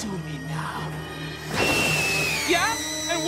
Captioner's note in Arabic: صراخ